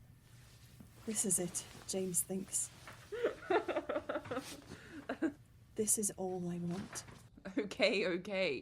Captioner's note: Regulus laughs